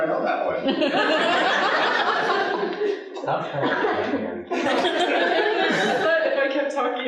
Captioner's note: audience laughing